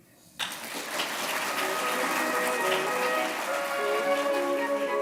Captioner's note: applause